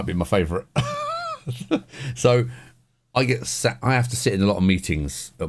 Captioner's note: laughs